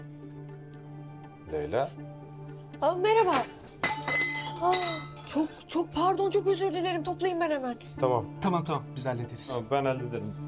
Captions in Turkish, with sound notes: Leyla? Ah, merhaba. [Çarpma sesi] [Devrilme sesi] - Oh! Çok çok pardon. Çok özür dilerim. Toplayayım ben hemen. Tamam. - Tamam, tamam. Biz hallederiz. - Ben hallederim.